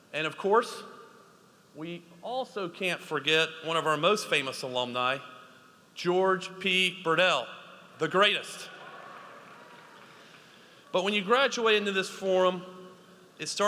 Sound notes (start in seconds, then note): 8.7 audience applauds